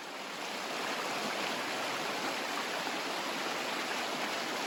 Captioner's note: water flowing